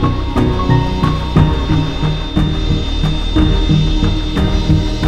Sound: long beep

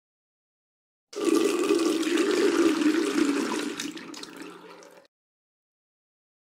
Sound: sound of water running

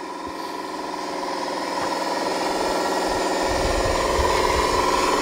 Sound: truck whirring

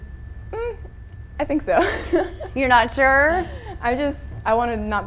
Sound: laughs

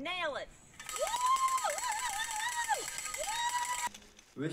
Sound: cheering

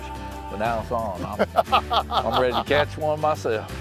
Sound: laughs

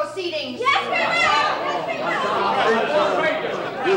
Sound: random shouting

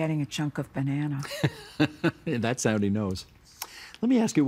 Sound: laughing

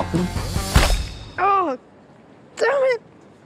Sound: wet smack

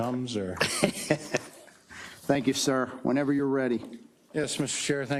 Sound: laugh

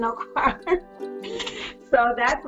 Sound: laughing

